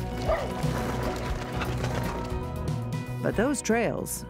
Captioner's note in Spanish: perros ladrando